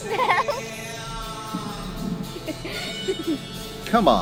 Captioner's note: giggles